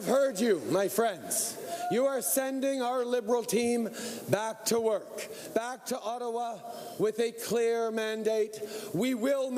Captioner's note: cheering